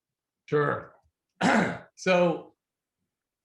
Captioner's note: clears throat